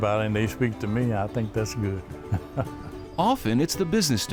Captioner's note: chuckles